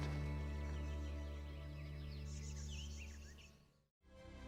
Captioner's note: birds chirping